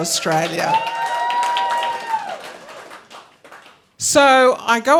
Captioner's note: audience cheering